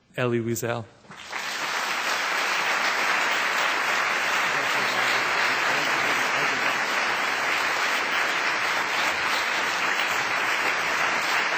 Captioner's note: applause